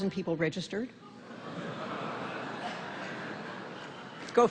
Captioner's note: laughter